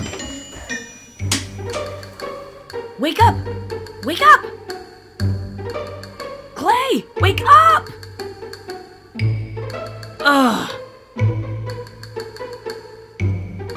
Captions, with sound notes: - Wake up, wake up! Klai, wake up! (groans)